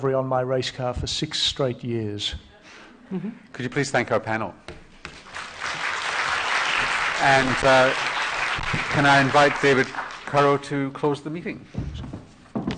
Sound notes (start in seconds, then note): 5.2 applause